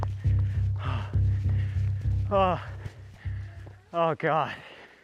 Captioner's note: panting